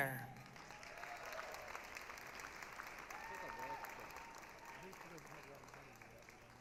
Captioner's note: applause, cheering